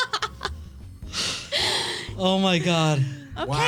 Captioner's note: laughing